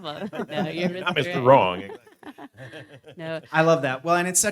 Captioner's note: laughs